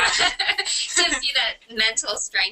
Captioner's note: laughter